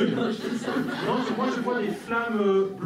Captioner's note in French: rires